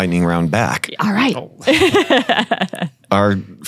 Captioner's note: laughing